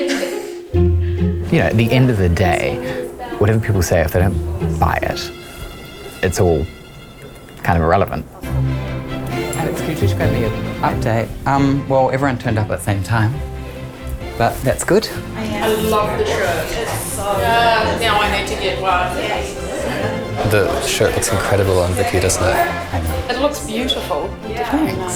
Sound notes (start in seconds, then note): 16.3 chatter